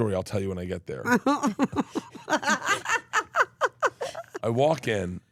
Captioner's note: laughs